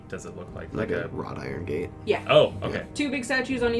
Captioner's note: flatly